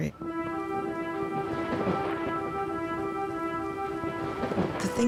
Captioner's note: thunder rumbles